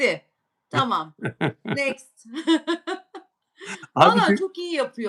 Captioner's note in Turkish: kahkaha